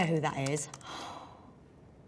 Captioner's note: Jodie sighs deeply